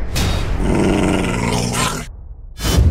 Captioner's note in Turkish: Kurt Sesi